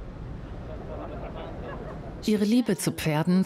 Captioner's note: people chattering